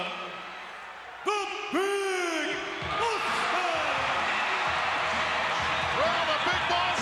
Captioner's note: crowd cheering